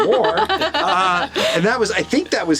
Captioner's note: laughs